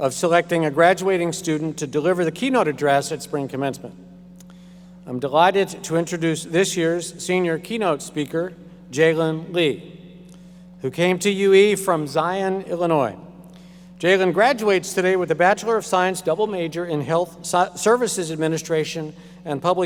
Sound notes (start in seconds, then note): none